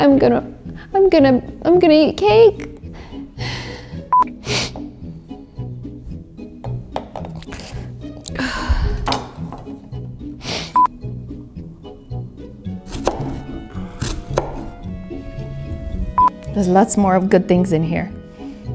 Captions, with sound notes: I am gonna, I'm gonna, I'm gonna eat cake. (sniffling) There's lots more of good things in here.